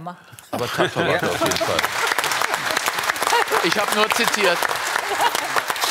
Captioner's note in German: Applaus